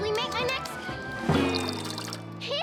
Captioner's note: water splashing